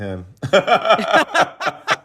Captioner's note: laughter